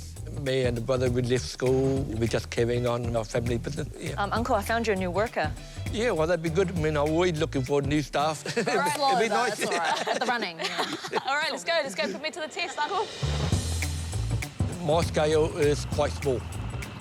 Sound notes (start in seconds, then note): 11.0 laughs; 14.4 laughs